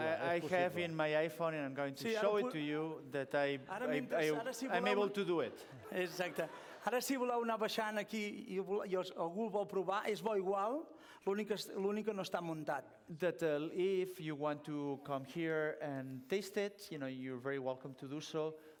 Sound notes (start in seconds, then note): 7.0 non-english speech